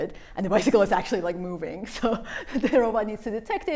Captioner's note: laughter